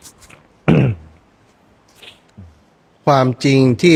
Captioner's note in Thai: เสียงสูดหายใจ